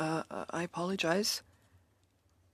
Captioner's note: speaking in French